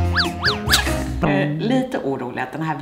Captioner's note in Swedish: skrattar